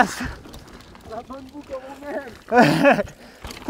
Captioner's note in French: rires